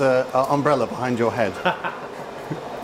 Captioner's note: laughs